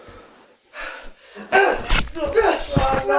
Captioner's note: Greg panting; knife clangs; Greg grunting; knife slicing